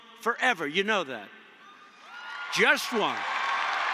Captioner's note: applause